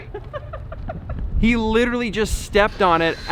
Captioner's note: laughs